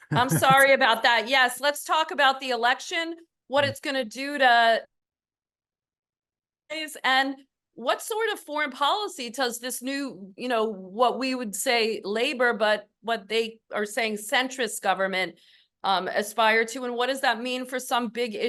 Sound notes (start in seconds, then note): 4.8 off mic